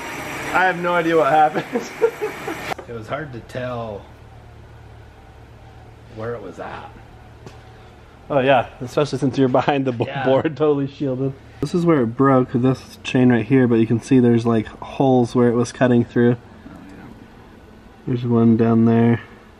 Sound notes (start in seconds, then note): 1.6 laughs